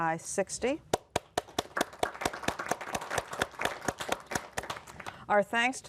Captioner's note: applause